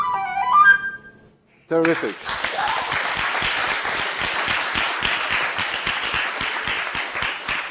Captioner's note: applause